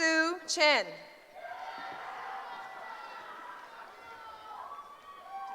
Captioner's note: cheering